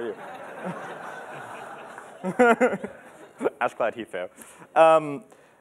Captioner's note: laughter